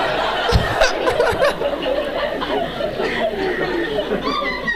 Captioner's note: audience laughing